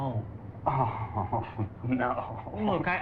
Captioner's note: laughs